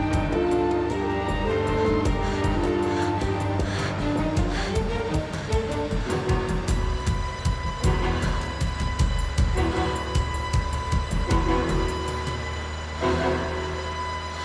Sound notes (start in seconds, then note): 1.4 panting